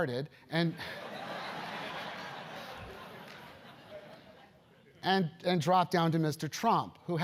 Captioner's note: laugh